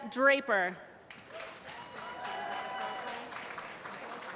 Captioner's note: applause